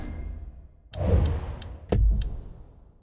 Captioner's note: ticking